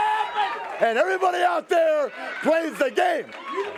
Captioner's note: crowd cheering